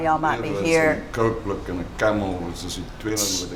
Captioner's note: man speaking foreign language